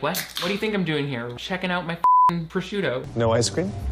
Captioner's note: beeps